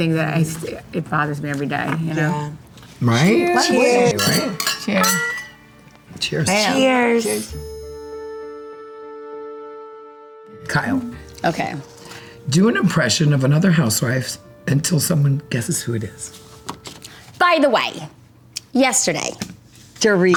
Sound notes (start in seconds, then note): 3.8 glasses clinking; 7.6 gentle music